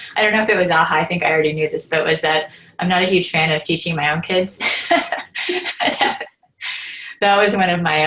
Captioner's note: laughter